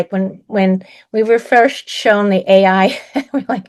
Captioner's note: laughs